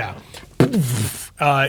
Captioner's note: imitates explosion